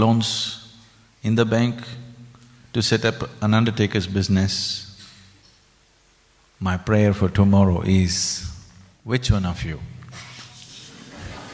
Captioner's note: laughter; 笑聲